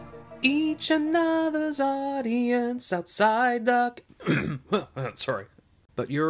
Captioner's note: coughs